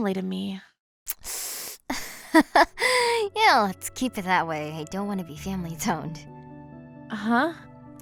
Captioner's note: awkward laugh